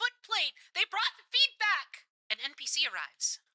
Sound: radio Filter

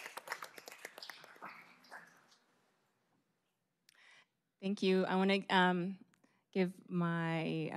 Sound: applause

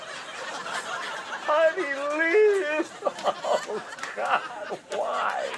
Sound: cries indistinctly

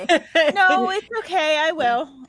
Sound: laughs

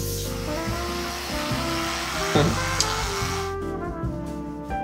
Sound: toothbrush whirring; lips smacking; smooth gentle music continues

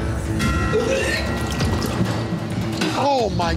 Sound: puking

